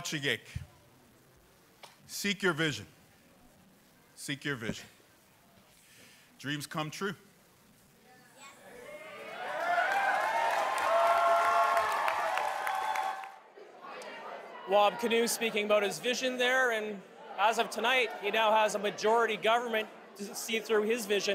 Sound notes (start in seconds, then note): 4.9 speaking aboriginal language; 13.7 cheers and Applause